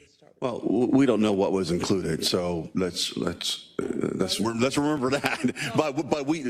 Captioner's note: laugh